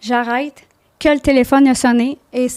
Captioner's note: in french